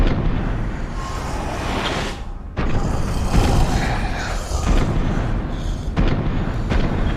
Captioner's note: META hissing